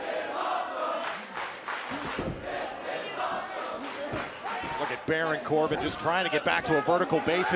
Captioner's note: crowd cheering